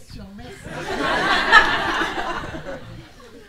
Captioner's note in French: rires